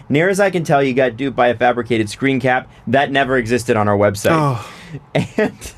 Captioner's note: sighs